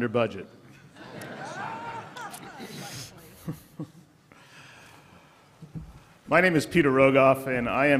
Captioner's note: laughter